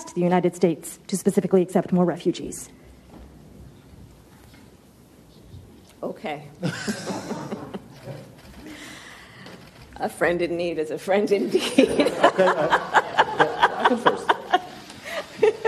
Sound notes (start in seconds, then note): 6.6 both laughing; 12.0 Kamala Harris laughing